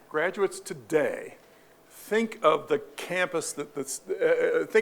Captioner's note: none